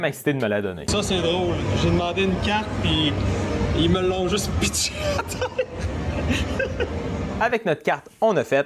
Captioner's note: laughing